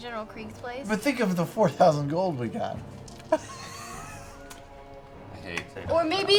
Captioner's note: laughs